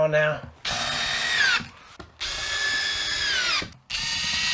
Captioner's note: drilling